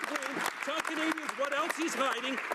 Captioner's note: some Applause